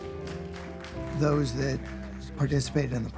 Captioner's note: applause